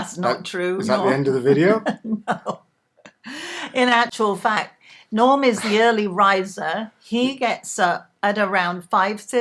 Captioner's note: laugh